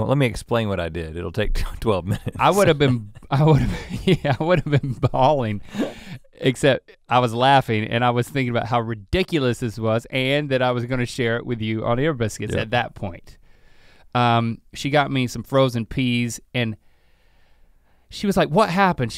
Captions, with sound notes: let me explain what I did, it'll take 12 minutes. - I would have been (chuckles), yeah, I would have been falling except I was laughing and I was thinking about how ridiculous this was and that I was gonna share it with you on Ear Biscuits at that point. She got me some frozen peas and she was like what happened?